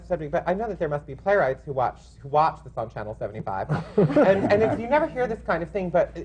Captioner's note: laughter